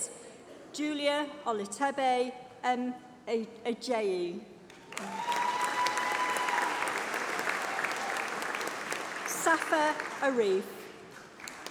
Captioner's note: applause